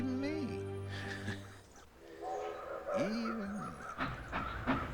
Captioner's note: chuckling